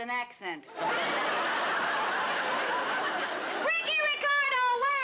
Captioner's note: audience laughs